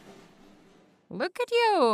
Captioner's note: falls off the wheel and thuds on the floor